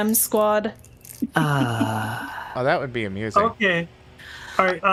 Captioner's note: long sigh